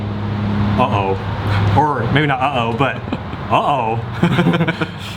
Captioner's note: laughing